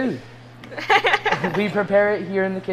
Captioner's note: laughing